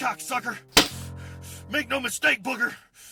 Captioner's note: thud